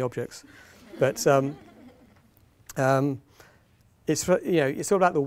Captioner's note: audience laughing